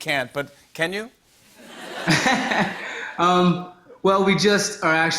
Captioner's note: laughter